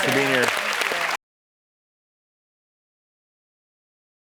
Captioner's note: applause